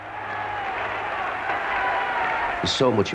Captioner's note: crowd cheering